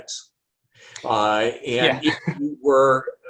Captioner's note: laughs